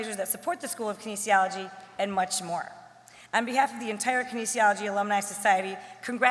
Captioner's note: none